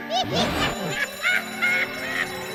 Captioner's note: alarm rings